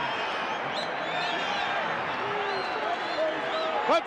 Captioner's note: crowd yelling